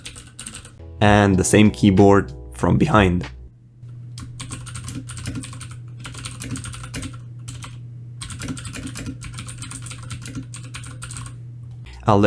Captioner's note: keyboard sounds; keyboard sounds